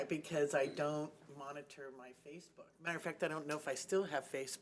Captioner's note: chuckling